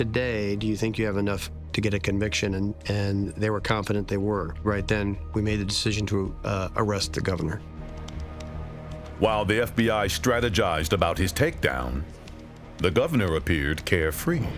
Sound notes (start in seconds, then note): 7.7 keyboard keys clacking; 7.7 tense music